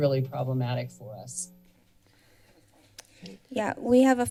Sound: silence

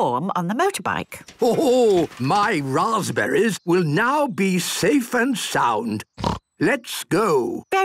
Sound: snort

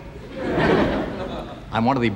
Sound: audience laughing

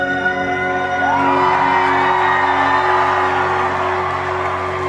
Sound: cheering

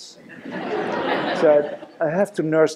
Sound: laughter

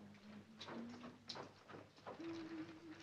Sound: hums to herself

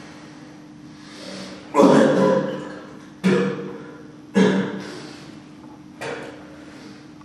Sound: vomits

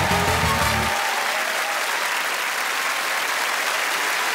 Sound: cheers and applause

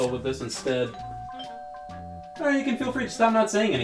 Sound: doorbell ringing

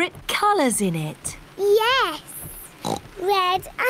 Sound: oinks

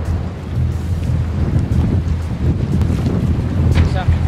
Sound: boom echoes

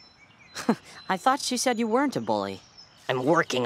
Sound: scoffs

